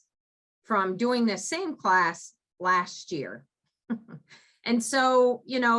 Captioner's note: giggles